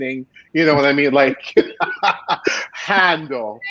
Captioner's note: laughing